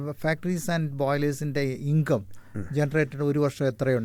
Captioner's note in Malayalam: തൊണ്ട ശരിയാക്കുന്നു